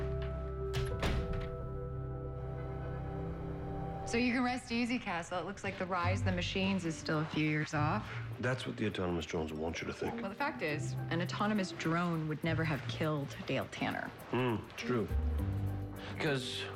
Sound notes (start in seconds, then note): 0.6 door opens; 0.6 door closes